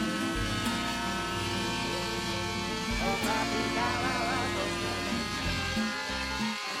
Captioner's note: laughs